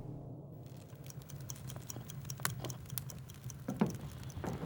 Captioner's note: watch ticks